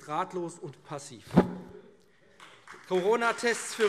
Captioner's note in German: Beifall AfD, Freie Demokraten und DIE LINKE